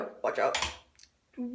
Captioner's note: light switch